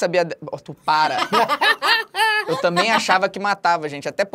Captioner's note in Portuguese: risadas